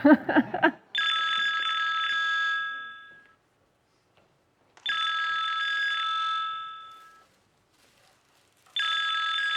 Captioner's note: phone ringing